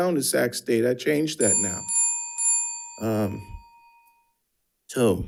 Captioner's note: timer ringing